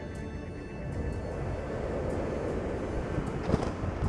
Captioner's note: wind howls; crackles